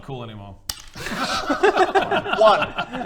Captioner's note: laughs